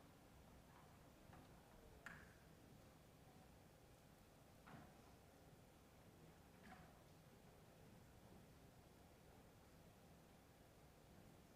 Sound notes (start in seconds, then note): none